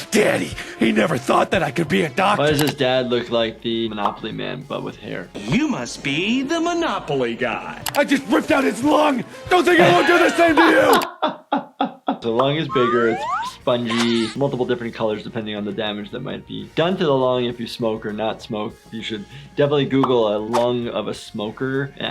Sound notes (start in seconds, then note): 12.6 SpongeBob laughs; 12.6 laughs